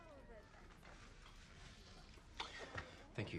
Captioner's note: indistinct chatter